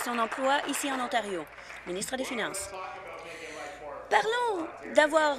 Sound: applause

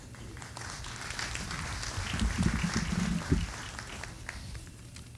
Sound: audience applauding

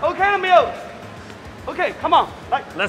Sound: worker speaks in Mandarin

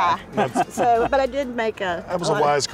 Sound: laughing

